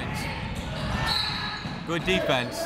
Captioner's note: whistle